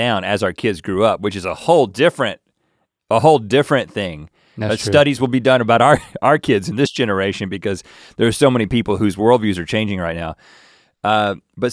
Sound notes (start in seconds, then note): 6.9 chuckles